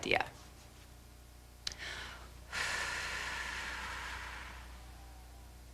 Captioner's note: breathing; breathing